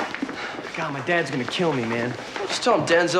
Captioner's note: sighs